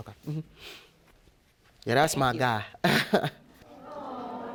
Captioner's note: chuckles